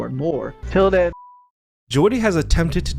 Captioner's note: beep